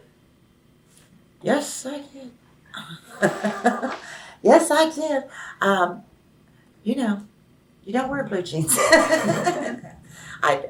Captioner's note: laughs